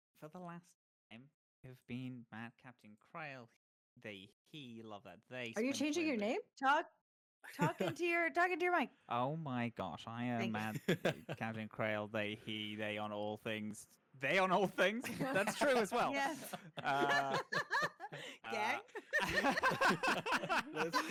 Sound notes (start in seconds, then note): 10.6 laughs; 14.6 all laughing